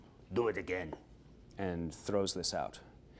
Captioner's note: in normal speech